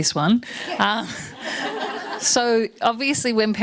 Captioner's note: laughs